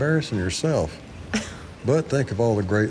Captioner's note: Angela laughing